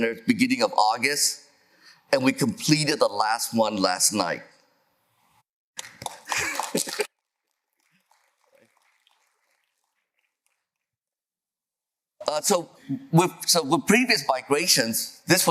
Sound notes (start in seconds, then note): 5.8 applause